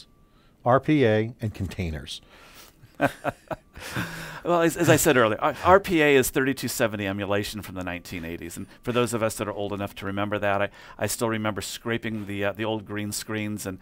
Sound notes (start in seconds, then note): 2.9 laughs